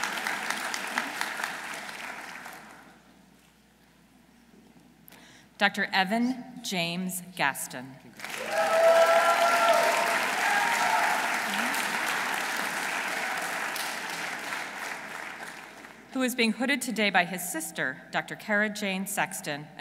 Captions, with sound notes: Dr. Evan James Gaston. -(audience cheering) -(audience applauding) Who is being hooded today by his sister, Dr. Kara Jane Sexton,